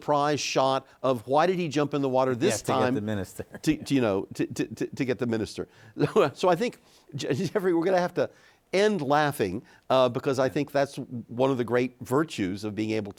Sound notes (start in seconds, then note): 2.4 chuckles; 7.6 chuckles